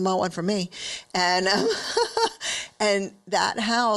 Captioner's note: laughs